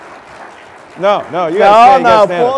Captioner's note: applause